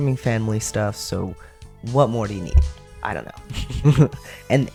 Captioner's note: laugh